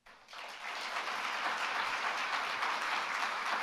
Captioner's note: applause